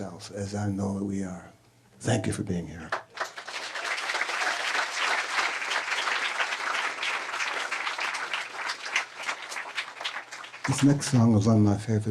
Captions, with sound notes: as I know that we are. Thank you for being here. (audience applauding) This next song was one of my favorite songs.